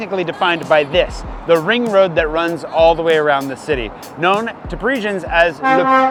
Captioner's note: truck honks